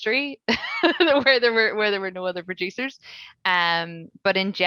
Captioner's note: laughing